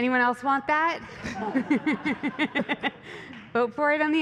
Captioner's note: laughter